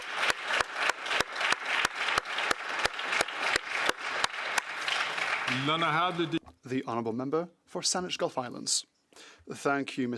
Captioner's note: applause